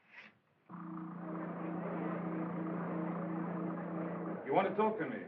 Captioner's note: machinery Humming